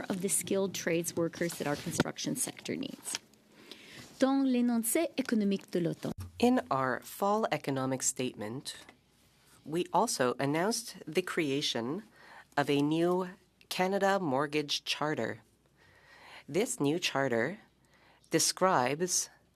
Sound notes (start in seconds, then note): 8.1 speaking French